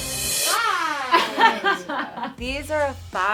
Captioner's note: laughing